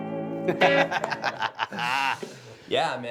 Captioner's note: laughing